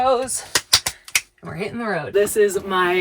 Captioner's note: hands clap